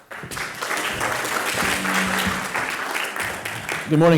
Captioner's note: audience applauds